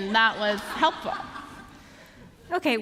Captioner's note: laughter